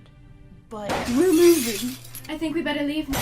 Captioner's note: crash